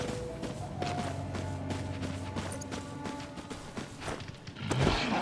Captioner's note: ominous music; footsteps clacking